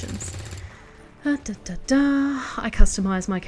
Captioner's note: very un-musical thinking noises